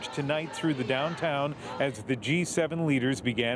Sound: speaking French

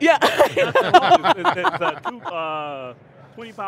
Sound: laughs

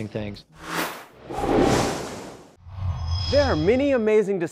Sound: sound Effects

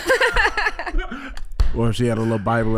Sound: Iman and Amber laughing

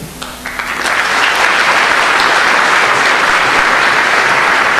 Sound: audience applauding

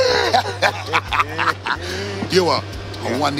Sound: laughter

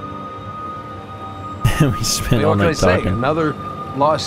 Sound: laughs

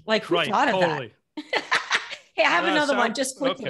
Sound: laughing

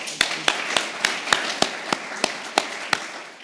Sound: applause

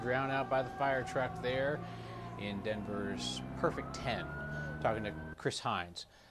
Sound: sirens

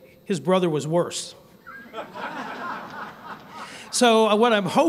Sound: laughter

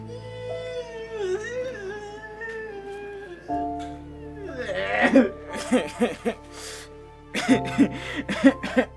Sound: crying

